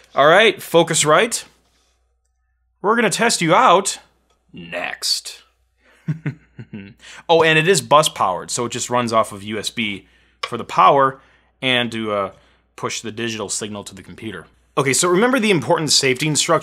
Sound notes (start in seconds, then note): 6.0 laughing